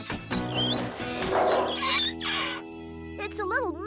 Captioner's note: engines Running